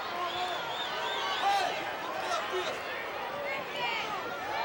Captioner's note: wrestlers chattering